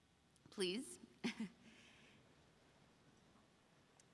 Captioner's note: chuckles